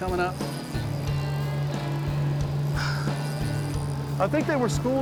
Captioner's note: motor revving